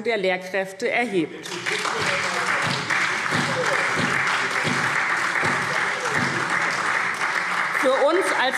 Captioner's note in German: Beifall SPD